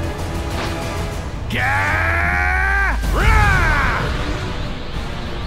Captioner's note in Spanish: Gritos